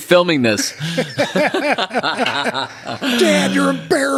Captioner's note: both laughing